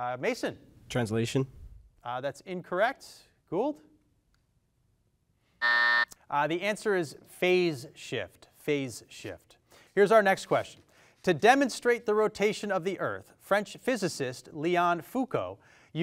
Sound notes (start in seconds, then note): 5.6 buzzer dings